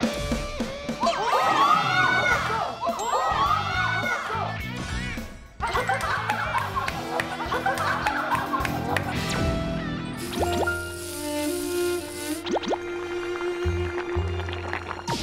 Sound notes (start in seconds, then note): 10.1 sizzling; 13.6 boiling